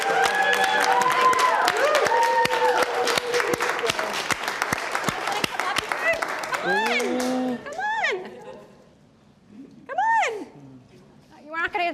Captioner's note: applause